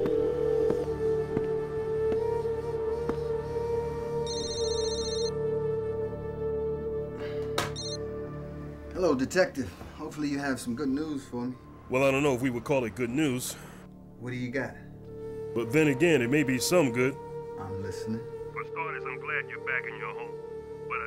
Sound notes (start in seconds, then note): 4.2 phone ringing; 7.7 exhales